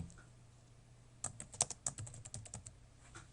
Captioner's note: typing